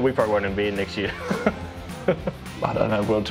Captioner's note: laughing